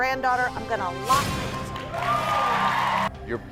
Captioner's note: crowd cheers